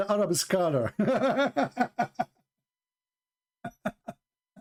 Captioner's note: Ketawa